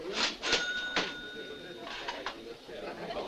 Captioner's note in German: Kasse klingelt